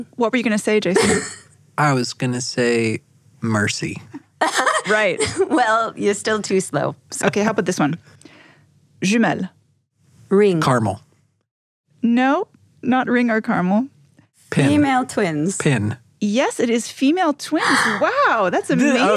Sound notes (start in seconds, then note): 4.1 laughs; 9.0 foreign language